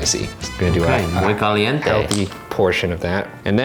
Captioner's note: speaks in foreign language